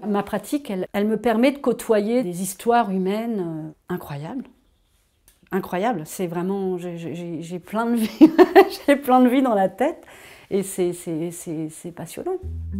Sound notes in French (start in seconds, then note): 8.0 rires